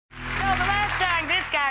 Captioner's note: audience applause